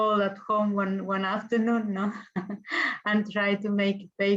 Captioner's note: chuckles